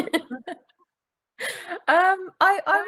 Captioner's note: laughing